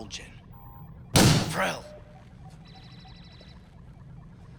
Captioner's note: beeps